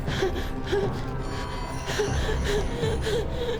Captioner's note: Claire gasping